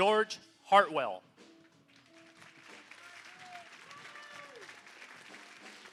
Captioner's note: applause